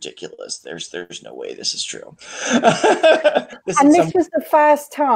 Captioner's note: laughs